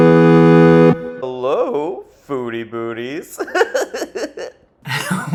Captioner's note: video game music; laughs